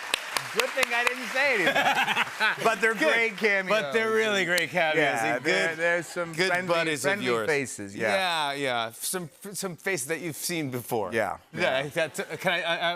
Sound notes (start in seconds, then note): 1.6 laughter